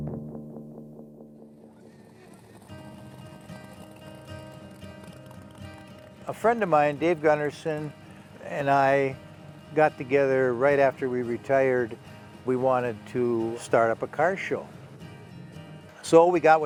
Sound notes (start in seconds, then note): 1.5 engines whirring; 2.2 gentle music